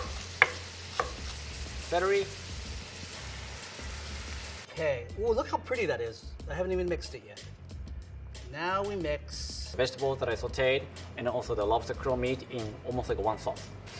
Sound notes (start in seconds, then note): 0.9 chopping celery; 3.3 veggies sizzling